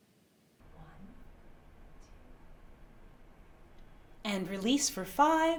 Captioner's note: whispering